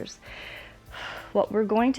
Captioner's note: inhales and exhales